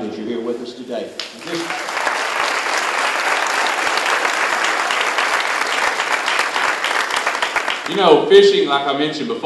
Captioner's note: applause